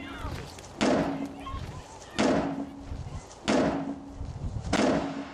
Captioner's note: metal banging continues